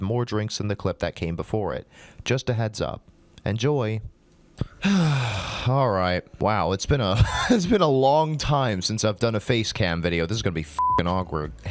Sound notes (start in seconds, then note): 4.6 exhale; 7.2 wheeze